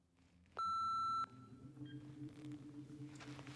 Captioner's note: telephone beeps